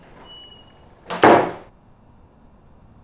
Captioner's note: door squeaks; door Slams